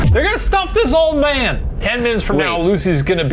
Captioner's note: none